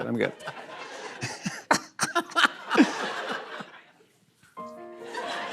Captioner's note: laughter